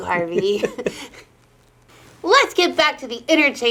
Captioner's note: both giggling